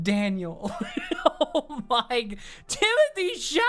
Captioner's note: laughing